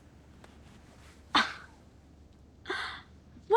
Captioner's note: gasps